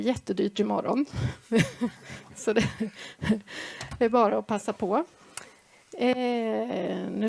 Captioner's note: laugh